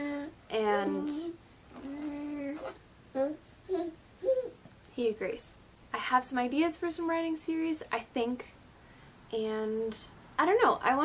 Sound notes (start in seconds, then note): 1.2 baby nonsense